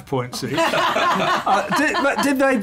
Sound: laughter

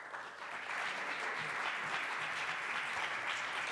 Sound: applause

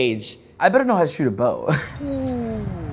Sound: chuckles

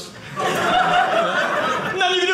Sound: audience laughing

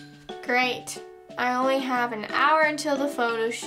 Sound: none

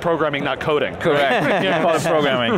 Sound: laughing

